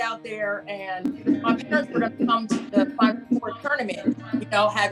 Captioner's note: muffled laughter